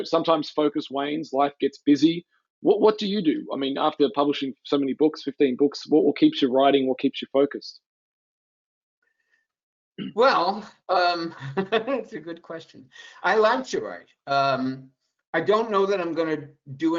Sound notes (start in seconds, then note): 11.2 laughs